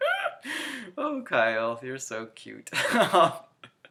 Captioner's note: laughs